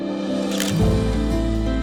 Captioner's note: camera shutter clicks